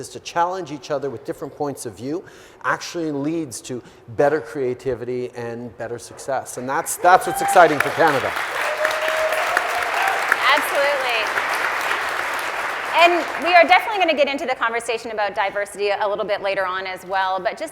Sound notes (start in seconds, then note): 8.7 audience applauding